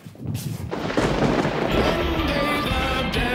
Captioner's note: lightning crashing